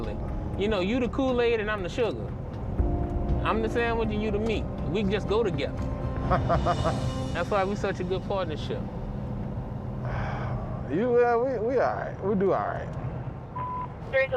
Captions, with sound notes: You know, you the Kool-Aid and I'm the sugar. I'm the sandwich and you the meat. We just go together. [laughs] That's why we such a good partnership. [sighs] You all-- we all right, we do all right.